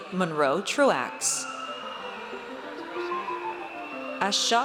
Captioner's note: audience cheers